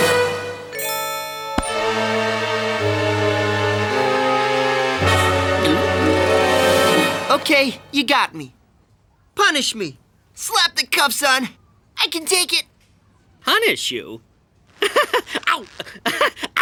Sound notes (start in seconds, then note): 5.5 gulping; 14.8 laughing